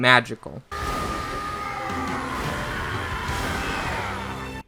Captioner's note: All Might yells